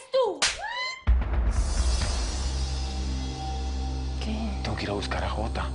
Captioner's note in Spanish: Ruido de bofetada